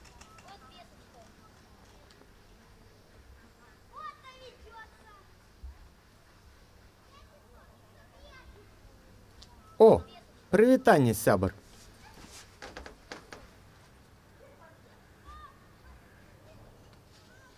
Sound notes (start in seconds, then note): 10.5 speaking Belorussian